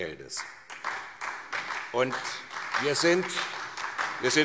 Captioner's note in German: Beifall SPD